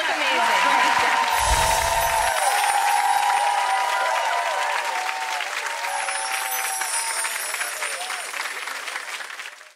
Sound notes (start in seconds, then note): 2.2 cheering